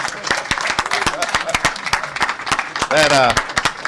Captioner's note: applause